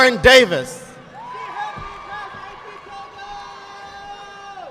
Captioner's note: audience clapping